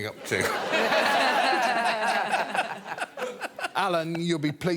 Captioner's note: all laugh